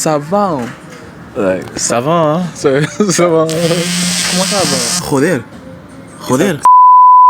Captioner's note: phone vibrates